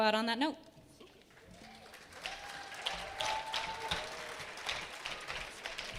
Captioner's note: attendees clapping and cheering